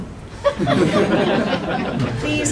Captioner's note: laughter